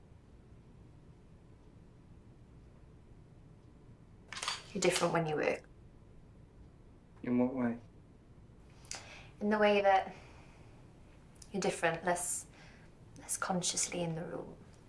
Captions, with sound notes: -[shutter clicks] -You're different when you work. In what way? In the way that you're different, less consciously in the rule.